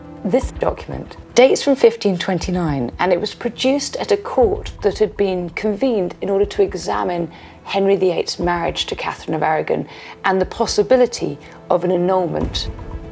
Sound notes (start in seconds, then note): none